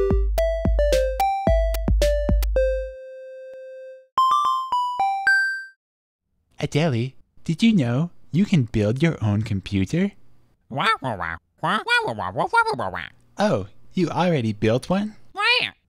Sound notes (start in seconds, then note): 10.7 squawks knowingly